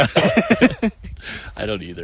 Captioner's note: both laughing